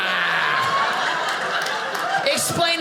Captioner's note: audience laughing